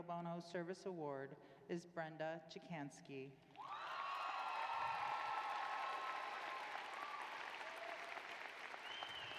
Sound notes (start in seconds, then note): 3.5 applause